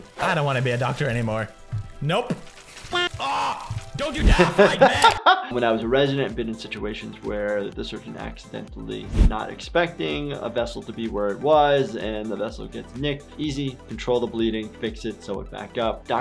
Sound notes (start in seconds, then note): 4.3 laughter